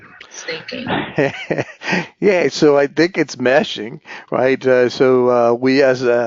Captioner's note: laugh